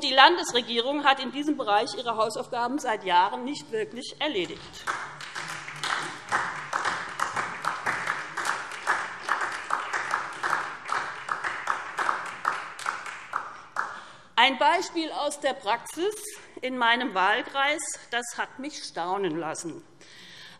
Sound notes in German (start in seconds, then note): 4.5 Beifall SPD